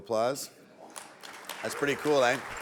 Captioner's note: audience applauds